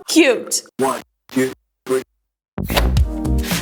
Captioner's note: voiceover; upbeat music playing